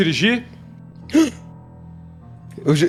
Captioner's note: excited